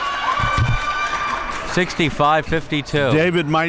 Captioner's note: crowd cheers